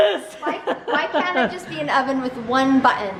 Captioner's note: laughs